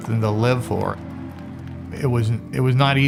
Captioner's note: people cheering